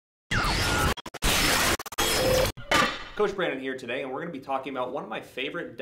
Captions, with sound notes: (distressed signal) Coach Brandon here today. And we're going to be talking about one of my favorite